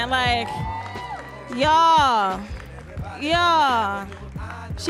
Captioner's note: audience cheering